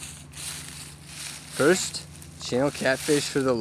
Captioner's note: leaves crunching